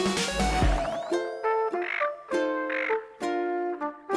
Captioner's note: gentle music; seagull chirps